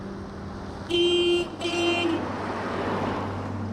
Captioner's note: blares horn